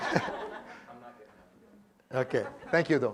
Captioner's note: laugh